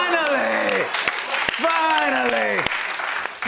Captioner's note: applause